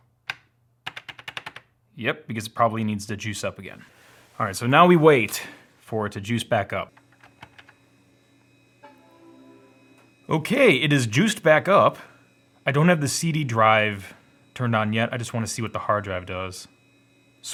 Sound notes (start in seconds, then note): 0.3 buttons clicking loudly; 8.7 computer chimes softly